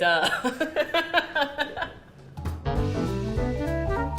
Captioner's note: laughing; jazzy music